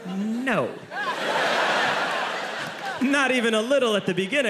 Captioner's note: audience laughing